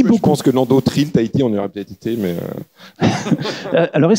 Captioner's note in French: rires